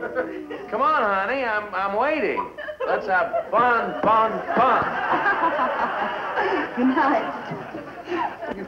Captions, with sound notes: - Come on honey, I'm waiting. Let's fun, fun. Fun. (Joan laughing) - Goodnight.